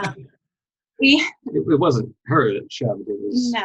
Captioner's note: laughing; speaking faintly